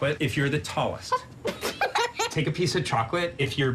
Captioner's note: laugh